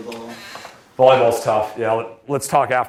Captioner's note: voiceover